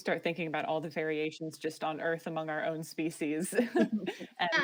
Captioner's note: laughs